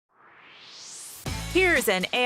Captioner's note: swoosh